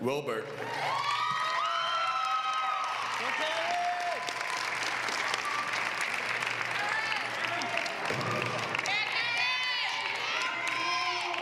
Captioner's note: applause